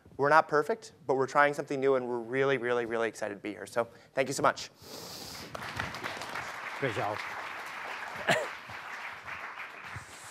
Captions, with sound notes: We're not perfect, but we're trying something new and we're really, really, really excited to be here. So thank you so much. (clapping) - Great job. (clapping)